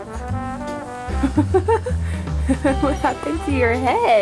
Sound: woman laughing

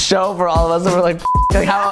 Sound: beep

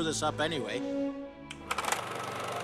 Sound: none

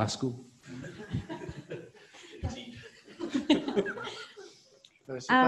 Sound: audience laughing

